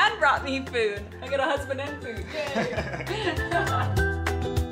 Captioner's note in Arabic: يضحك; كلاهما يضحك; موسيقى الآلات الناعمة